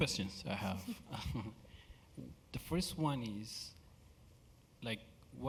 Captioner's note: laugh